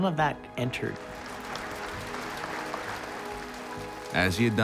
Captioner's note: applause